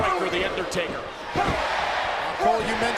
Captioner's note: applause